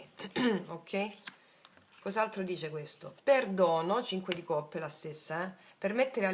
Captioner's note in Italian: schiarire la voce